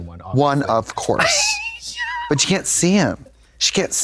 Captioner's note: Katya titters